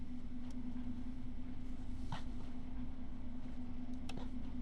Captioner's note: mechanical engine ambience